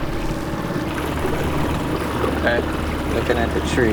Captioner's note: water splashing